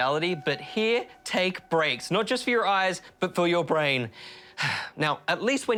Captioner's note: sighs